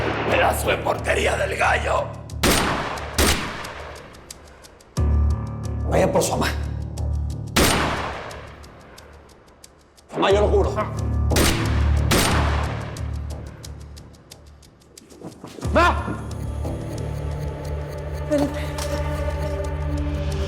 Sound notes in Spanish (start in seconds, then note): 7.5 Disparos; 11.3 Disparos